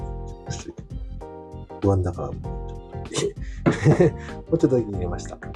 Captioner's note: laughs